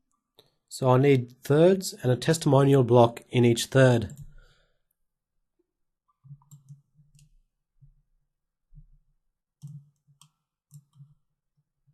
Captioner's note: silence